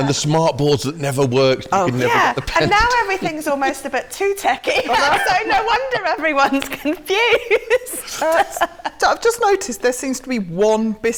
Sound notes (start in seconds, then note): 7.2 laughter